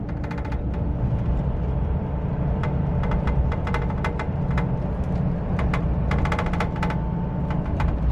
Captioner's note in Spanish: viaje y sonido del motor ‘Scania’ del bus ‘Marcopolo G6’